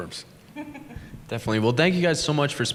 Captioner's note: chuckle